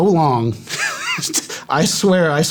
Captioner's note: chuckles